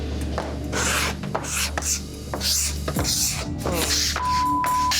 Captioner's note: metal scraping